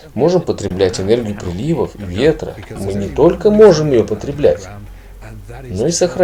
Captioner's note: wind